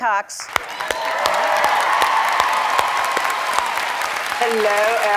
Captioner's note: cheering and applause